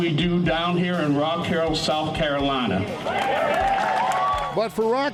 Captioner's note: crowd cheering